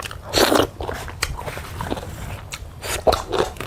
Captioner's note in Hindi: नाक से की जाने वाली आवाज़